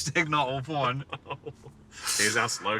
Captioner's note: laughing